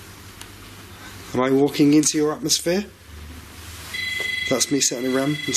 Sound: Rem beeps

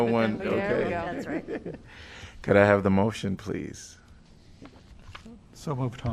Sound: laughter

